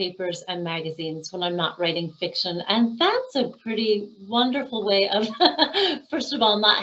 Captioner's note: laughing